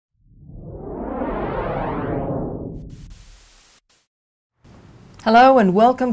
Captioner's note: swishing sounds